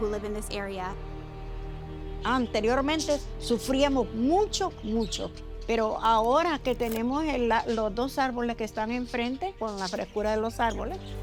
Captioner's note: speaking Spanish